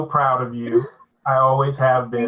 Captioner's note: laughing